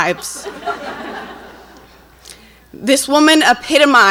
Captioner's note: audience laughs